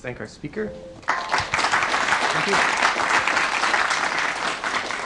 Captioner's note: applause